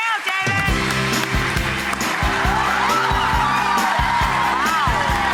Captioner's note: audience cheers